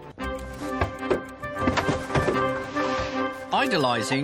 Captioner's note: drawers closing